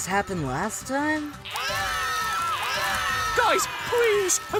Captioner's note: screaming